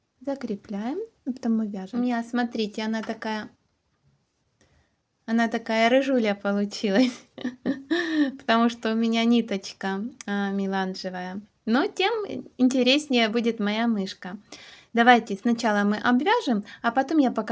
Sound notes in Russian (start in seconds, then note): 6.9 смех; 7.9 тяжело вздыхает